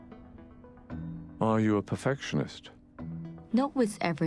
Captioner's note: voiceover